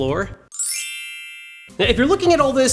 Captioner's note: mysterious twinkling